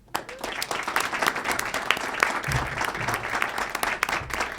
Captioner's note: audience applauds